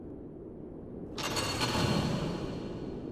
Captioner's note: door echoes